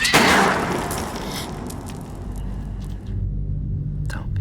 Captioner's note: gunshot, pearl necklace getting broken; gasp